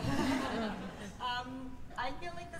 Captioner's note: laughter